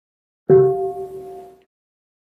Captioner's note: bell